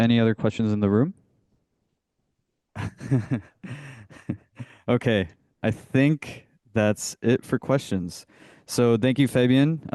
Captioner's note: chuckles